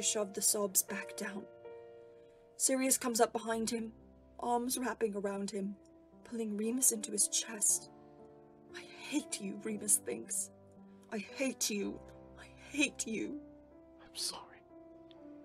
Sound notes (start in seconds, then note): none